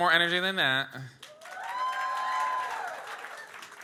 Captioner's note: audience cheers